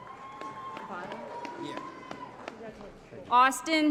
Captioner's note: applause